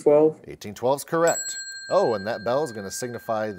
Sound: bell chimes

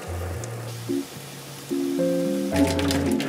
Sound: boiling

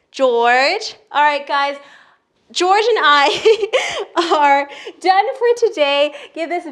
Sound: chuckles

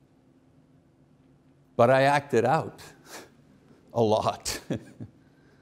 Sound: chuckles

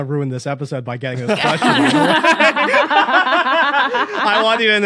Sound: group laughing

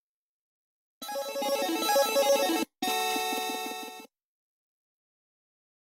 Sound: 8-bit chime plays

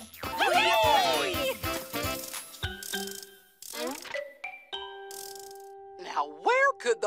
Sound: cheering

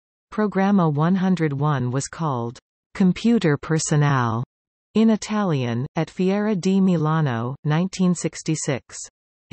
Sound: in Italian

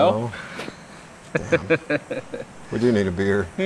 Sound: laughing

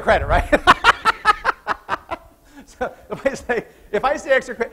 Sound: laughs

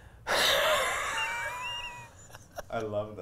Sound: laughs

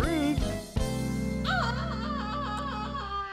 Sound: creature shrieking

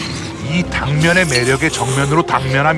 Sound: none

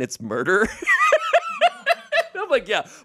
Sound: everyone laughs

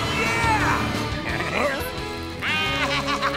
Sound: bleating

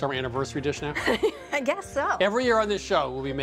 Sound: laughing

